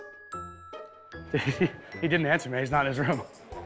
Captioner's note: chuckles